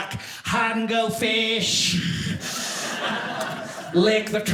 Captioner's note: audience laughing